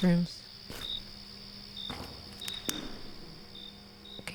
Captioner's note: crickets recede Echo-y footsteps